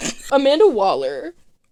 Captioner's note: nasty cackle